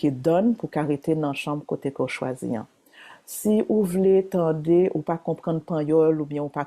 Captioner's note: continues speaking Haitian Creole